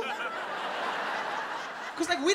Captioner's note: audience laughs